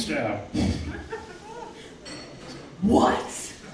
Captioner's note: audience laughing